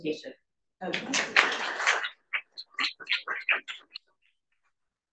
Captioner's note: audience applauding